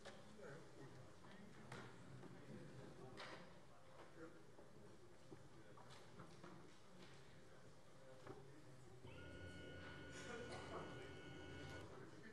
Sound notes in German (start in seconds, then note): none